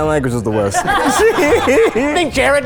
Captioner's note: all laughing